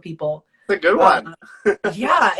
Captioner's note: laughs